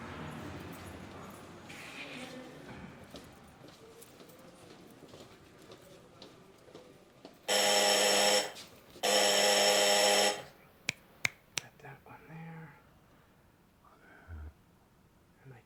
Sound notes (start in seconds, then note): 7.5 buzzer sounds; 11.2 fingers snapping